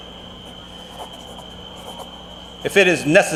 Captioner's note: pencil rasping continues